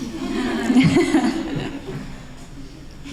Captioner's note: laughter